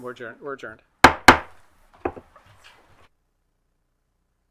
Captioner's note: gavel slamming